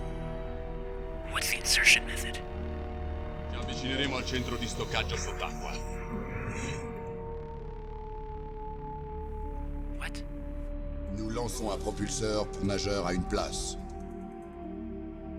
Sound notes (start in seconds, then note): 4.3 speaking in Italian; 11.2 speaking in French